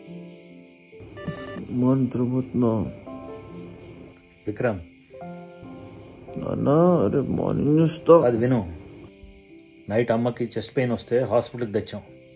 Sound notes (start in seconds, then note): 1.9 drowsily; 8.1 sternly